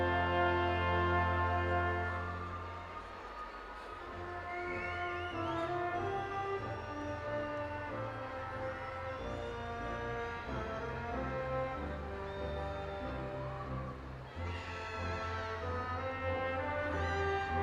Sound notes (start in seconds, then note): 2.3 audience continues cheering